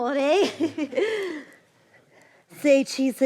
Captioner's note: laughs